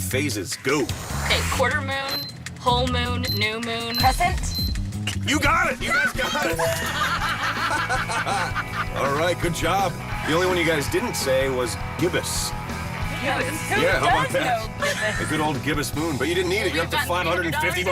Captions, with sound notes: NAME FOUR OF THESE FIVE PHASES. GO. OKAY, QUARTER MOON, WHOLE MOON, NEW MOON. CRESCENT? YOU GOT IT! YOU GUYS GOT IT! [ LAUGHTER ] ALL RIGHT, GOOD JOB. THE ONLY ONE YOU GUYS DIDN'T SAY WAS GIBBOUS. GIBBOUS? WHO DOES KNOW GIBBOUS? THE GOOD OLD GIBBOUS MOON, BUT YOU DIDN'T NEED IT.